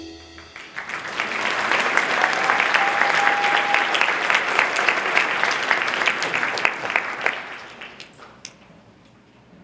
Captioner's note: applause